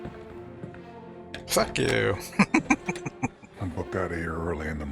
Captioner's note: chuckling